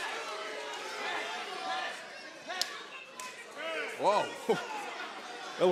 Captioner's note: crowd chatter